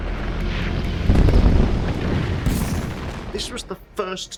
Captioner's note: explosions